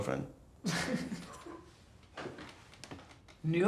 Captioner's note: boys laughing